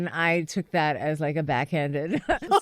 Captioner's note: laughter